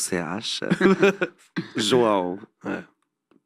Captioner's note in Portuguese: risos